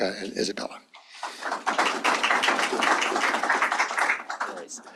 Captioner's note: applause